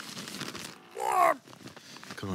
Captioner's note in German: Ächzen